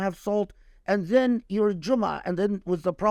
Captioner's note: speaking Arabic